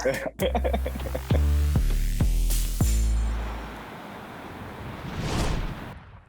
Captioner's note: laughing; upbeat music